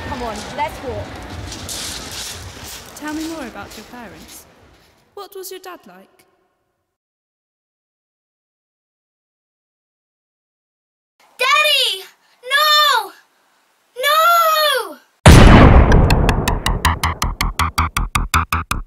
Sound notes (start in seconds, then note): 15.2 gunshot